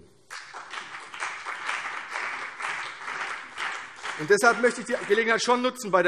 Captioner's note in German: Beifall CDU und BÜNDNIS 90/DIE GRÜNEN